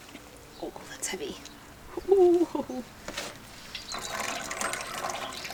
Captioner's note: dripping